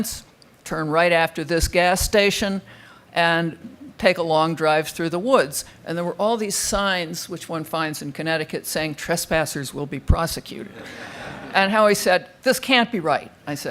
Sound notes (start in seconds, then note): 10.7 crowd laughing